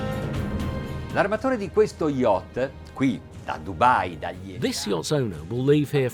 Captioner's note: speaking in a foreign language